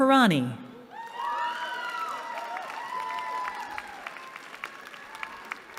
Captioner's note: cheering